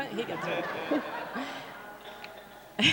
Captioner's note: laughs